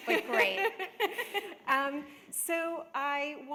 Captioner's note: laughter